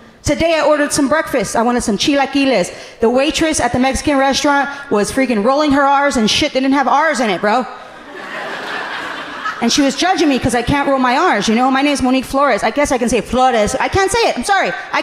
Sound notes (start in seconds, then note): 7.8 audience laughing amusingly